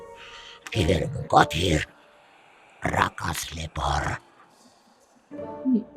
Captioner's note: speaks in demonic language